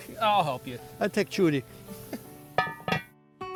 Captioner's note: both laugh